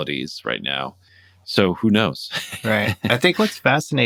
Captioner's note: laughter